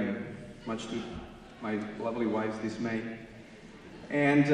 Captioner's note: audience laughing